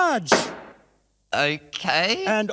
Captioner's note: gavel bangs